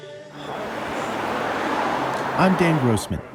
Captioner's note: traffic passing